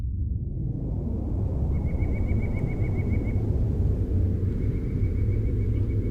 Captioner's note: whooshes, birds chirping